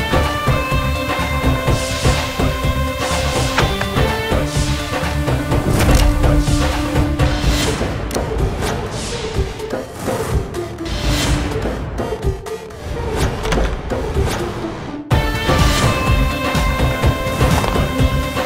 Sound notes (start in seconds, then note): 13.0 door opens; 15.1 upbeat music plays